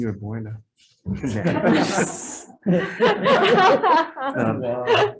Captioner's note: group laughs